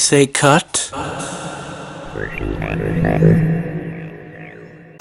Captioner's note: voice echos